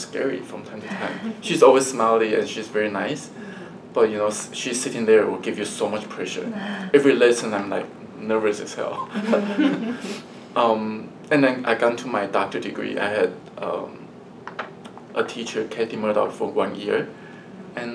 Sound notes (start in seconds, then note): 9.1 all laugh